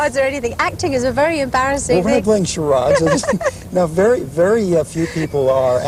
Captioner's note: laughter